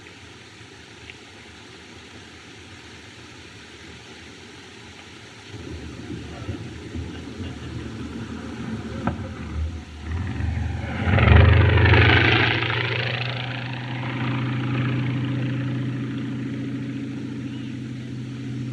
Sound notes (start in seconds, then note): 8.3 plane Flies Overhead